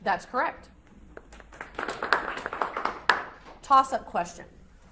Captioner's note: audience applauds